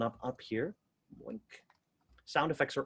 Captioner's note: mimics sound effects